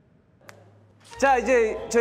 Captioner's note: snap